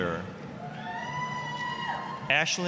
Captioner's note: applause, cheering